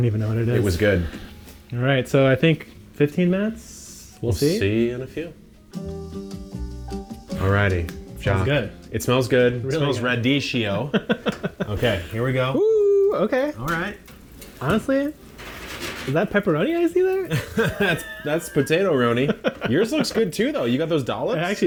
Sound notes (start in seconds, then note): 6.0 light music; 17.2 laughs